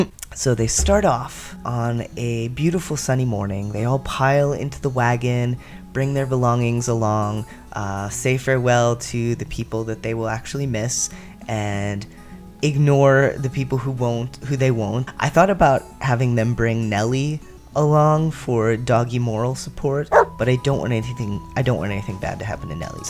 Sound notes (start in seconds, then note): 20.1 friendly bark